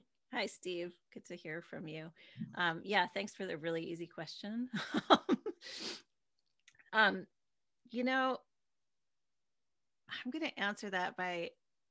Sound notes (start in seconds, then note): 4.6 laughs